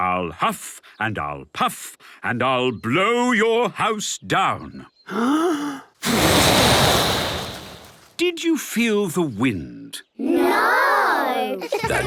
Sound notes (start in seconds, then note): 5.1 inhaling deeply; 6.0 blowing; 11.5 laughter